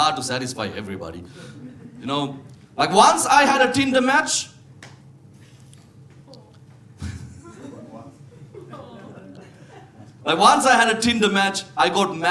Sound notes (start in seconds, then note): 7.0 audience member laughs; 7.0 audience member groans